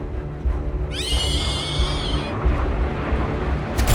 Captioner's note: shrieks; jets, gunfire and explosions